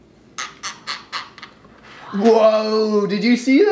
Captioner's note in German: Zähneknirschen